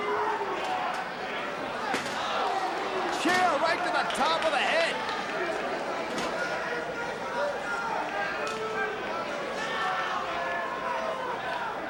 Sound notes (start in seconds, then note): 2.1 chair whacking